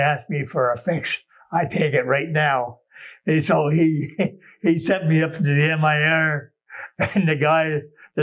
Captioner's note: laughs